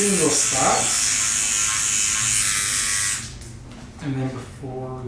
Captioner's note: pen buzzes